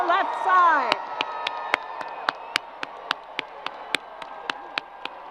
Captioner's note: crowd applause